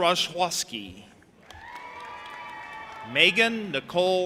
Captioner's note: audience applauding and cheering